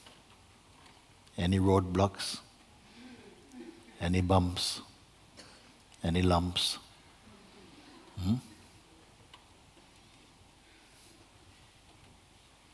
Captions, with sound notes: Any road blocks? Any bumps? Any lumps? [Silence]